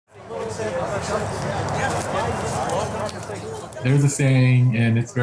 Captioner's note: people conversing